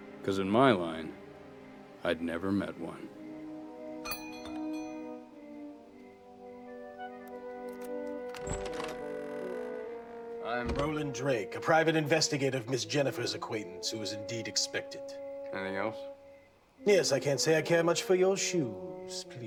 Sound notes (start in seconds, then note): 4.0 doorbell ringing